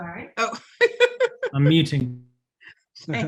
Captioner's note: laughs